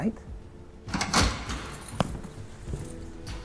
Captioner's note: door clacking; book slamming